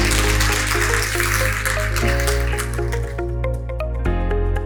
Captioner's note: audience clapping; soft upbeat music